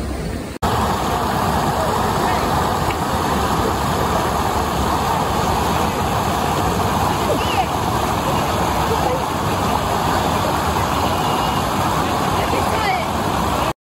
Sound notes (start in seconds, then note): 0.0 water flowing loudly; 0.6 water flowing, people talking faintly/inaudibly in background